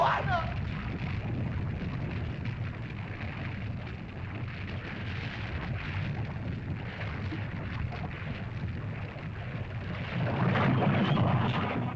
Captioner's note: lava bubbles & flows